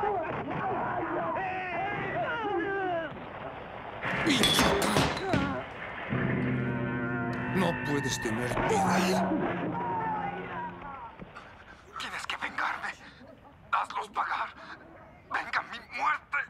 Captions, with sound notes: (EXCLAIMS) (MEN SHOUTING) You must get revenge. Go get them all. Revenge or death!